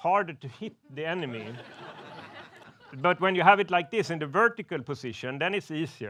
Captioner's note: laughs